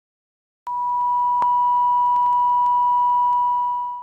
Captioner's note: beep